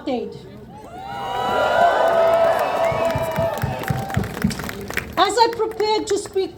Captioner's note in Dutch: Gejuich